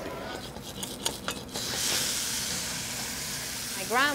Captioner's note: pan sizzling